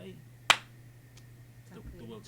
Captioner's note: palms thumping